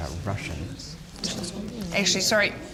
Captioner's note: crowd talks amongst themselves